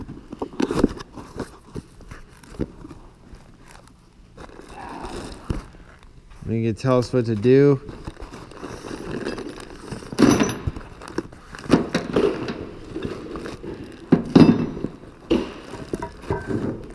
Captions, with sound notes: there gonna tell us what to do (metal noises)